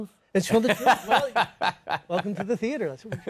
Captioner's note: laughs